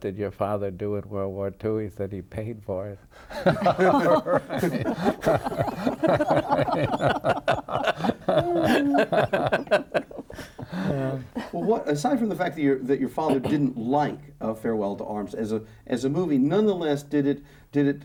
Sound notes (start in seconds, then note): 3.2 laughing